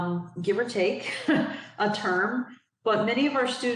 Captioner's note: giggles